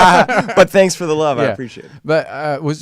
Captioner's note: laughing